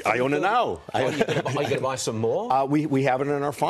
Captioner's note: laughter